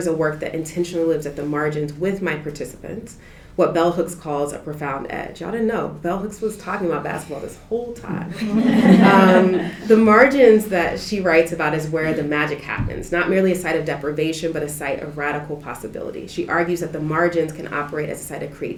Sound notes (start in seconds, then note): 8.0 laughter